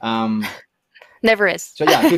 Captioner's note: laughs